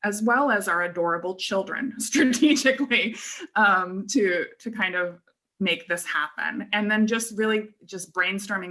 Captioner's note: laughter